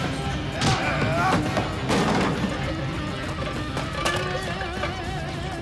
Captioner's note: groans; thud